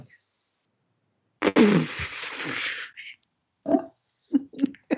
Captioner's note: laughs